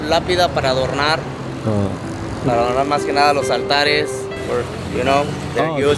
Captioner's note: Spanish